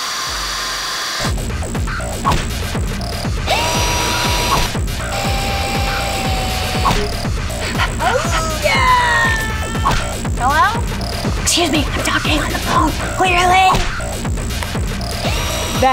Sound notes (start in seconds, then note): 1.4 upbeat music; 2.9 machine continues whirring